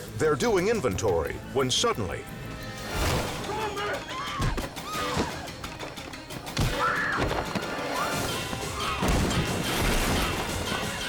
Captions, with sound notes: They're doing inventory when suddenly, (woman screams) (objects clunks)